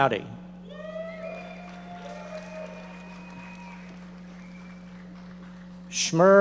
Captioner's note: audience members cheering and applauding